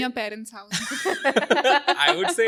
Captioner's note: all laugh